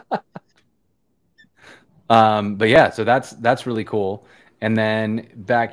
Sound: laughter

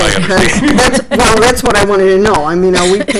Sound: laughing

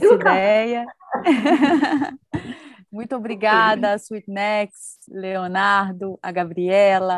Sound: laugh

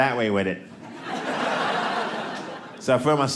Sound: audience laughing

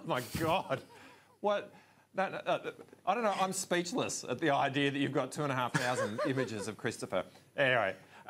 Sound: laughs

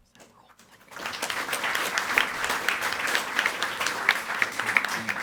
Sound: audience applauding

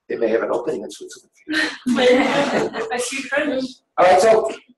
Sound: laughing

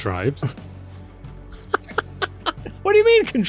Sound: laughing

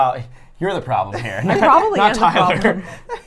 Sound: laughs

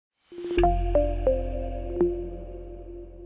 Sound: sound effect

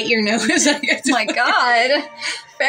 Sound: blabbering Laugh

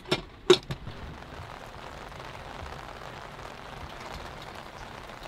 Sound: rain patters

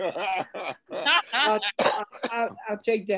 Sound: group laughing

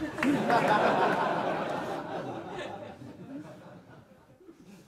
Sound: audience laughs

